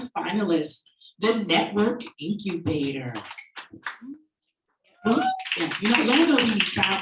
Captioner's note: audience applauding